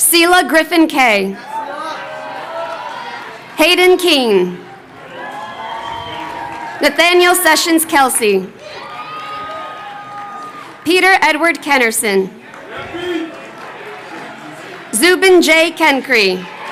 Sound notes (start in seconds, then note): 12.5 audience member chattering